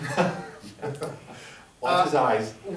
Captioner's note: chuckles